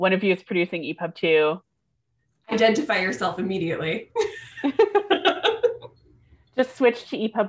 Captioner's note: laughter